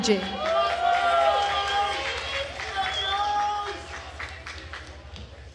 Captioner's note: attendees cheering and applauding